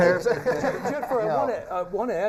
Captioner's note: people laughing